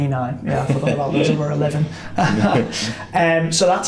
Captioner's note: chuckles